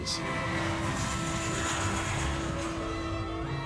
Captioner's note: airplane sound